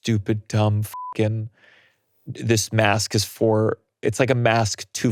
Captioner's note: beeps